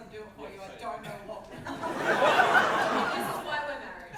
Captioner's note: audience laughter